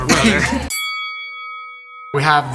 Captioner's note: bell chimes